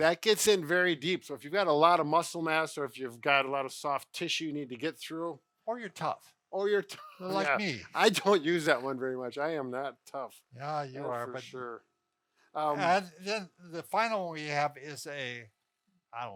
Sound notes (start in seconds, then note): 7.3 scoffs